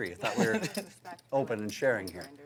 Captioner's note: laughing